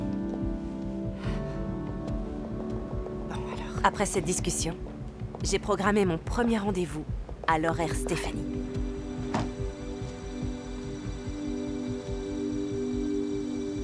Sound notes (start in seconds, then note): 1.2 sighs